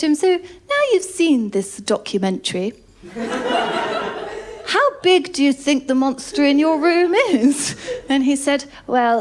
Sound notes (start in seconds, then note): 3.0 laughter